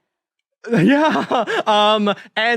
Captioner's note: chuckles